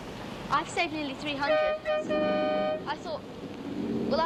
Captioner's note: strident honking